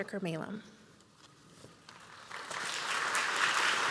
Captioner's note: applause